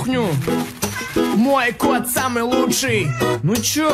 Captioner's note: miau